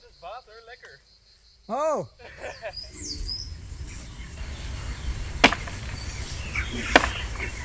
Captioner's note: laughter